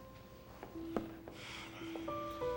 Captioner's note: sighs